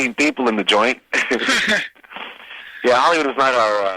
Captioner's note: both laughing